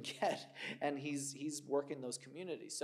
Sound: laughs

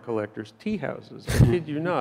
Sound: chuckles

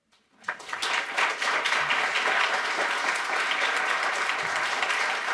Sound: audience applauding

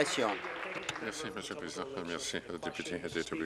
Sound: applause

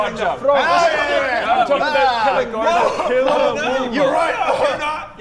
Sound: Aggressive shouting at Bodger

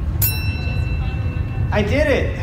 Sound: ding

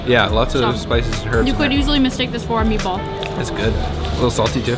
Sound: none

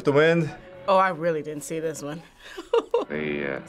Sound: laughing

